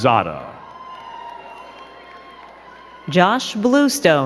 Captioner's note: crowd cheering and clapping